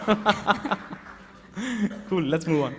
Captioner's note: applause